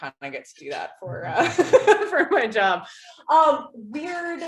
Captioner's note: laughs